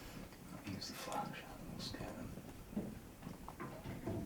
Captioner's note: whispering